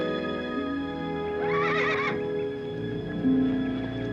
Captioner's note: horse neighing